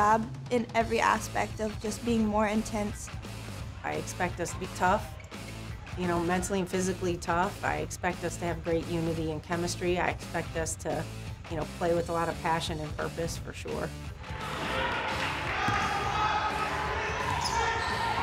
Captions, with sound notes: in every aspect of just being more intense. - I expect us to be tough, you know mentally and physically tough. I expect us to have great unity and chemistry. I expect us to play with a lot of passion and purpose for sure. (players shouting)